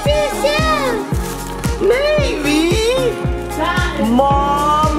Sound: cereal crackles

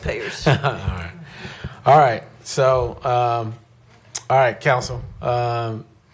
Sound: laughter

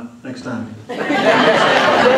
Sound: laughter

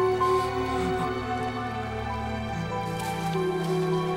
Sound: crying

